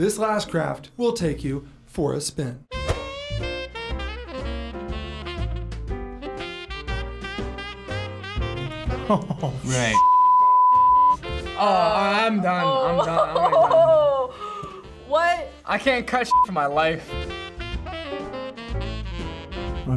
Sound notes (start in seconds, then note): 3.0 smooth sax music; 8.6 laughs